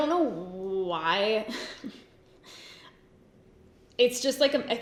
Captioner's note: giggles